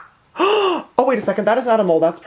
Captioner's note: gasps